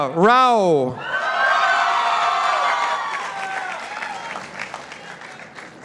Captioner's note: participants applauding